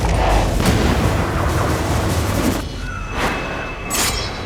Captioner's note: gun fires